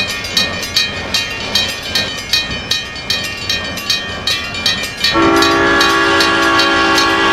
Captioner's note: SP Cab Car horn